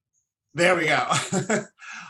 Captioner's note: laughs